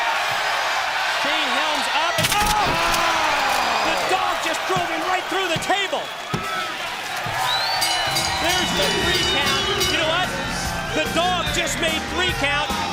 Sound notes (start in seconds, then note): 0.3 crowd cheering; 7.9 crowd cheering; 9.7 bell ringing